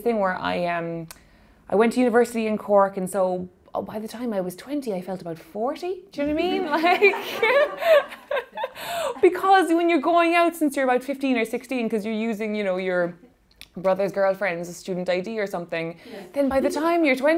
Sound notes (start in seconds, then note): 6.6 laughing